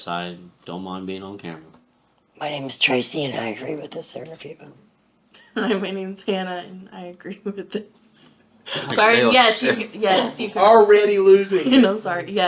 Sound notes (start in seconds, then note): 6.1 laughing